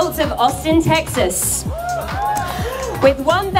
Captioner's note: cheering